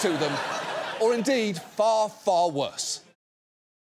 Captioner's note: audience laughs